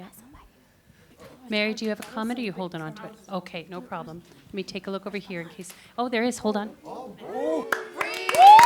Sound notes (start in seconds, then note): 0.9 chatter; 7.4 cheering and applause